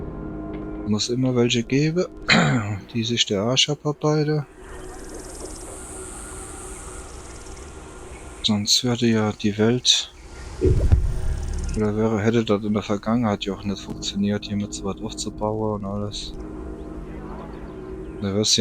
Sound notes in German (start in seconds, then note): 2.2 räuspern